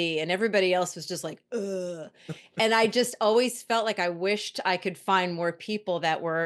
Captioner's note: groans